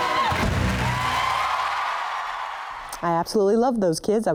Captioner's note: audience cheering and applause